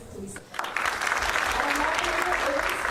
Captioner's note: applause